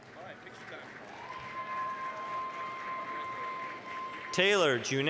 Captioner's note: applause, cheering